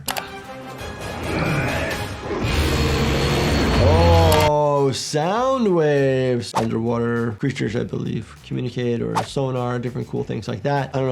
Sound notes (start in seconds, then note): 0.0 mouse clicking; 0.1 energetic orchestral music; 2.3 sound waves blaring